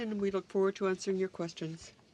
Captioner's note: speaking in french